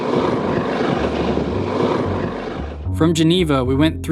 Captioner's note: wheels turning